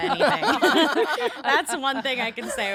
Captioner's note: all laughing